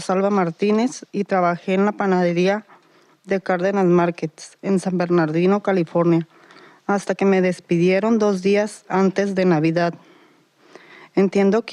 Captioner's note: Spanish